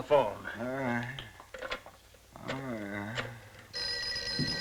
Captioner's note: groaning; phone ringing